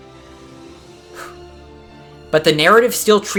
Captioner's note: exhale